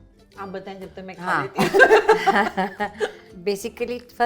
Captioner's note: chuckles